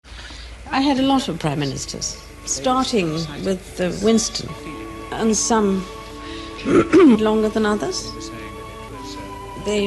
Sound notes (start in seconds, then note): 6.6 cough